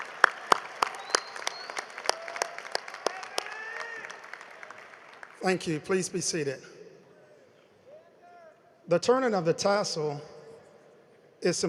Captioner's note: applause